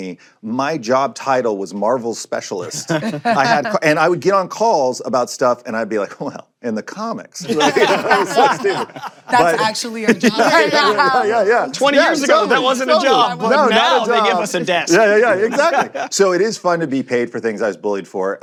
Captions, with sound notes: My job title was Marvel Specialist. (LAUGHTER) And I would get on calls about stuff, and I'd be like, "Well, in the comics..." -(ALL LAUGHING) -That's actually a job. Yeah, yeah, yeah. Twenty years ago, that wasn't a job. But now they give us a desk. Yeah, yeah, exactly. So it is fun to be paid for things I was bullied for.